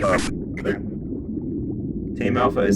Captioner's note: coUgh; ahem